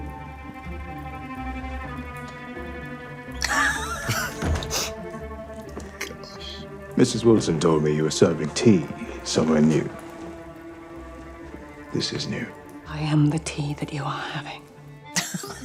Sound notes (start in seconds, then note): 0.8 tense music; 3.4 both laughing; 15.1 both laughing